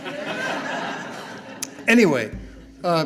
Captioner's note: audience laughing